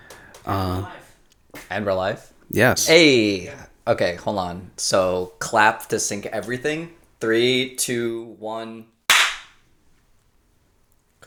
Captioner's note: clap